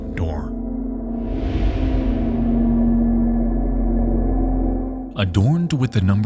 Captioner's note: eerie music; air whooshing